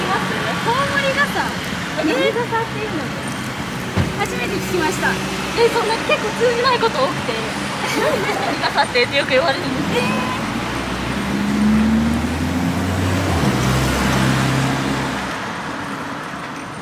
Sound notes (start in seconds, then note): 7.7 laughs